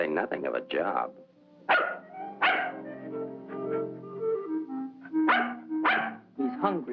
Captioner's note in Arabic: نباح الكلب